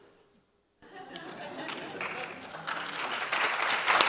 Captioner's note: laughter; applause